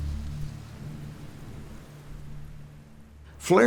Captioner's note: rain falling